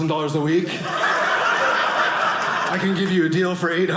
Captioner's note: audience laughing